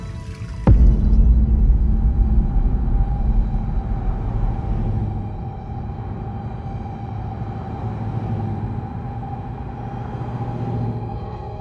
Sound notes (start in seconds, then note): 0.3 ominous music; 3.8 engines revving